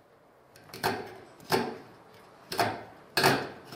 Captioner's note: clacking